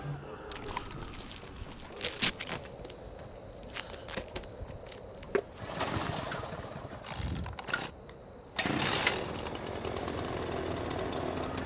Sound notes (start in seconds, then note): 2.4 tape ripping; 5.9 engine sputtering; 8.9 engine rumbling